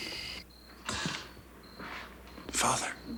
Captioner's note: crickets chirp